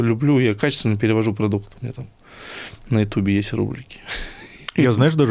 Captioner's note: laughs